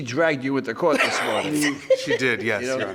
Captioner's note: woman laughs